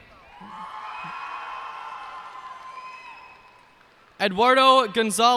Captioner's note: cheers and applause